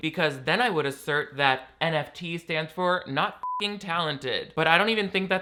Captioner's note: beep